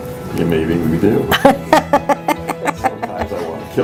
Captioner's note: laughter